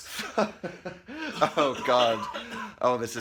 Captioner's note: coughs lungs out; stuttering